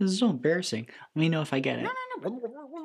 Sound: critters mumbling anxiously

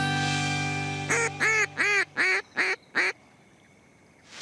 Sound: duck quacks

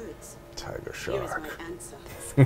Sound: chuckles

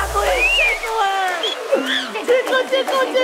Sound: screeches

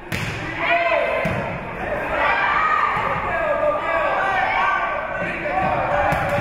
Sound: spectators shouting encouragements

